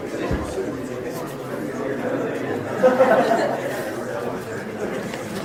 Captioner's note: audience chattering and laughing